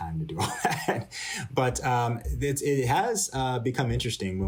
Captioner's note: laughter